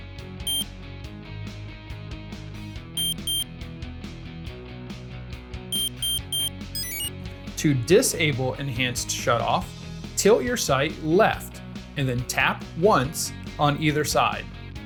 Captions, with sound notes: *one short beep* *two short beeps* *three short beeps* *Enter chime* To disable Enhanced Shutoff tilt your sight left and then tap once on either side.